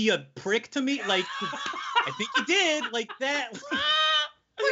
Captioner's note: laughing loudly